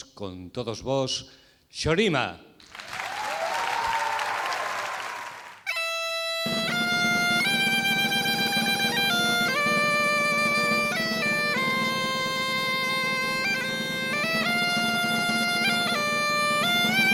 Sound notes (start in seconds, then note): 2.6 applause